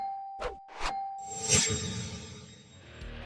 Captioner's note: whooshing; metallic whooshing